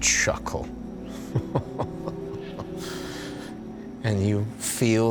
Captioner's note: chuckling